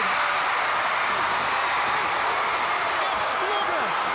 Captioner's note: crowd cheering